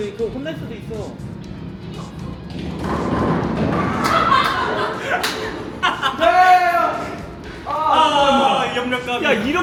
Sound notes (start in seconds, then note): 3.2 pins topple weakly; 4.9 wobbling